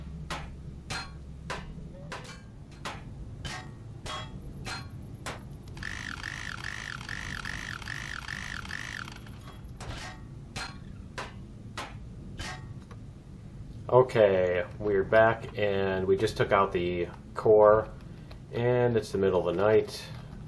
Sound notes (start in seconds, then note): 0.1 pinging continues; 9.3 pinging